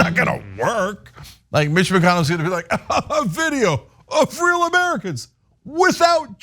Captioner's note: laugh